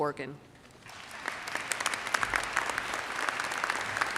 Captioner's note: audience applauds